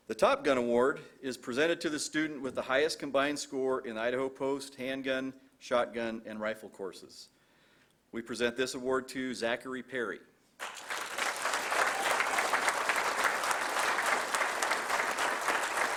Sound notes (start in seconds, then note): 10.6 applause